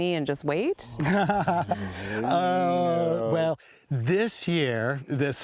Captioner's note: laughing